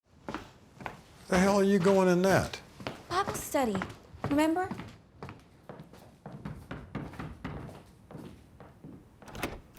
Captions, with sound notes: Where the hell are you going in that? Bible study. Remember? [KNOCKING]